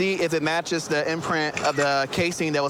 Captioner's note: camera app clicks